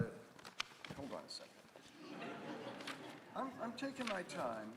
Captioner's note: audience laughing